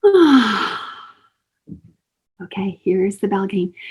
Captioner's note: deep exhale